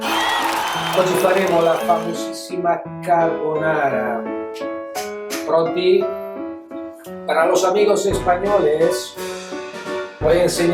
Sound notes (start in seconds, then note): 8.2 speaking spanish